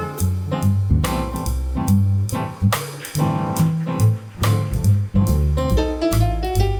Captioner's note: applause, piano solo begins